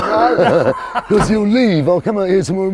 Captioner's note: laughing